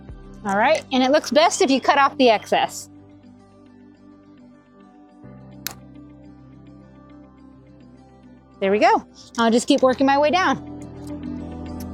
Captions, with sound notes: All right, and it looks best if you cut off the excess. (pliers snapping) There we go. I'll just keep working my way down.